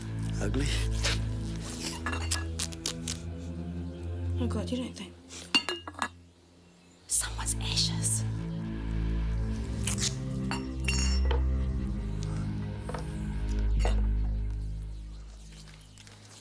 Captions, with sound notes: - Ugly. - Oh god, you don't think? It's someone's ashes. (tape ripping) (suspenseful music)